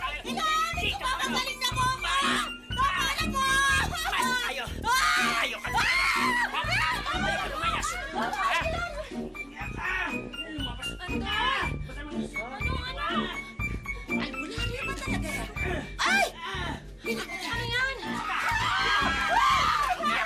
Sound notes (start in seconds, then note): 2.4 shouting; 5.1 woman continues shouting, crying; 18.2 shouting